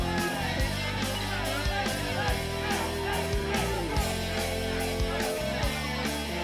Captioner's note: crowd cheering continues; fun rock music continues